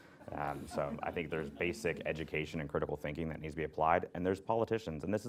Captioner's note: laughter